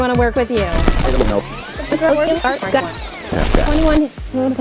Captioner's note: rewind zipping